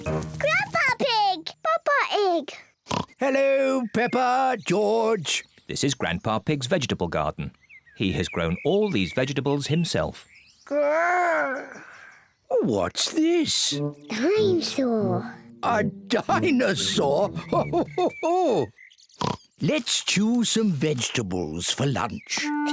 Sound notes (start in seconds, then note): 2.8 oinks; 16.7 laughs; 19.2 oinks